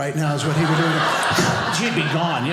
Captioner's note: spit